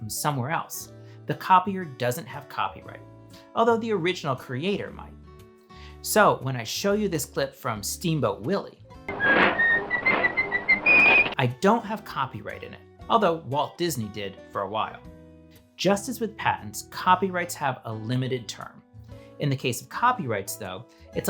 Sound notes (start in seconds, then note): 9.2 whistling